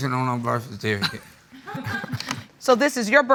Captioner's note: chuckling